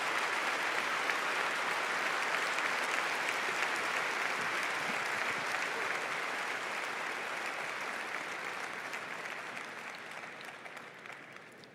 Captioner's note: applause